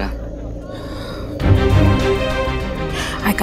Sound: Poonam sighs

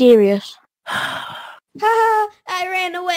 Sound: Flint sighs

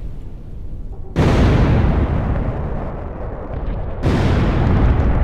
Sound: canons firing

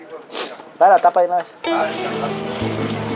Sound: Spanish spoken audio

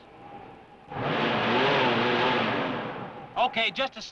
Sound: engine revving

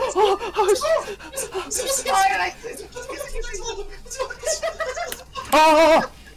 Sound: speaking Korean

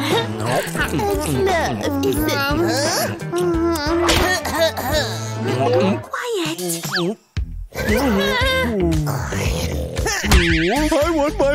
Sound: snoring

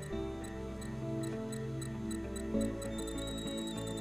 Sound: beeping increases; wand whining

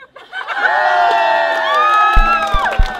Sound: cheering

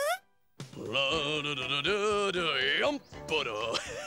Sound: Jake humming

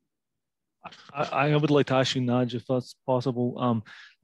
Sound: bold Voice

